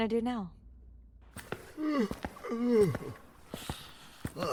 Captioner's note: stifling yawn